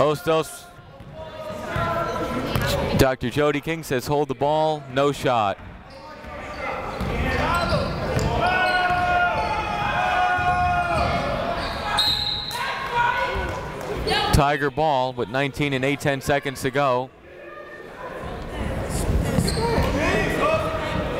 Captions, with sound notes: Hostos, Dr. Jody King says hold the ball, no shot. (chatter) (whistle) Tiger ball with 19 and 8/10th seconds to go. (chatter)